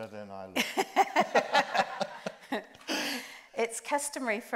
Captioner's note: group laughs